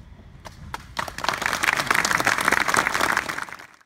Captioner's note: applause